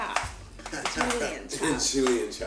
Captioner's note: chuckling